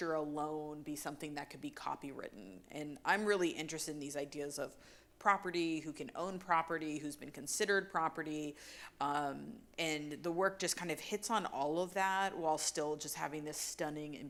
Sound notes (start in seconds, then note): none